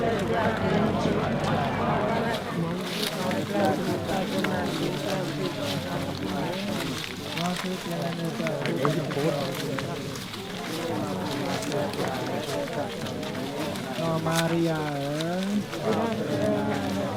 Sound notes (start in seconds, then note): 3.1 leaves rustling; 14.2 foreign language